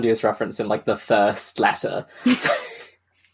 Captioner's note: laughs